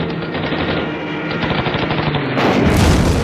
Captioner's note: jet engine roaring; gun firing; mosquito thuds